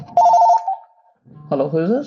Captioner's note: phone rings